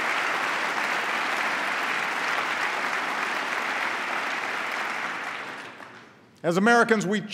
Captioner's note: applause